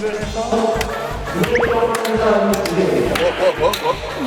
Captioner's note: Tertawa